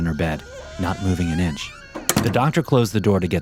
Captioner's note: door creaking